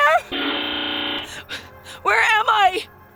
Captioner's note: TV buzzing continues